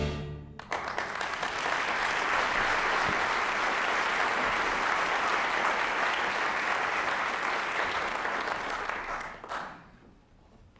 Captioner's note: applause